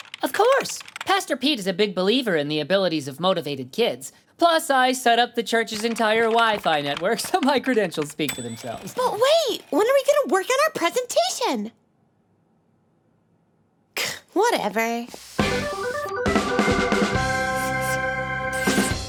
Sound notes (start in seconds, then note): 13.7 scoffing